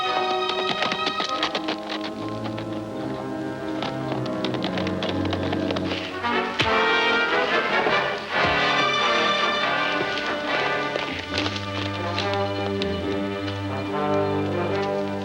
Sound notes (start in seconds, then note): 0.9 horse galloping; 3.9 suspenseful music